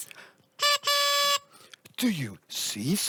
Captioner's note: school bus horn